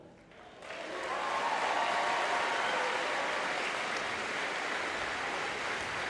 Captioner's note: audience yelling and applauding